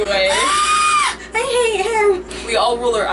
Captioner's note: screech